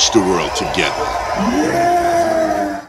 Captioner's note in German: crowd cheering